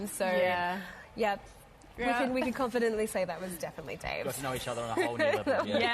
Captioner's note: laughter